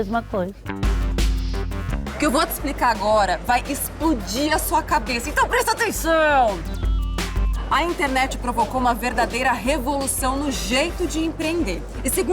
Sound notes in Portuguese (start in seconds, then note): 6.4 grita